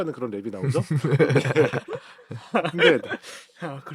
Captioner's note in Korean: 웃음